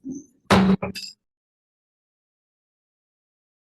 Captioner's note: gavel bangs